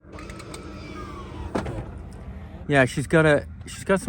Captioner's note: disturbance hissing